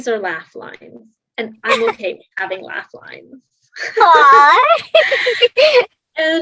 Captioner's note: laughs